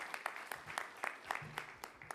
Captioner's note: applause